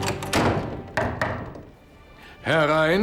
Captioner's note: knock on door